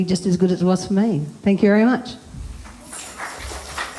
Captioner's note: applause